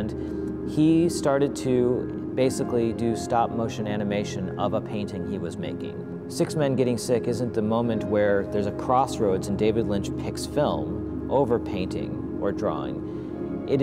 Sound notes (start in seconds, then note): none